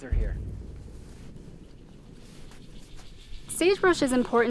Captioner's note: dramatic sound